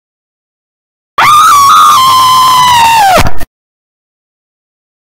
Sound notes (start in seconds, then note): 1.2 sound of scream